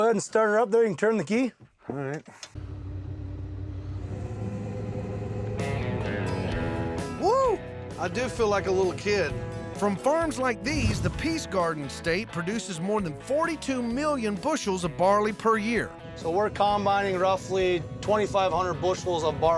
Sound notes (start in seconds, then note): 3.1 motor starting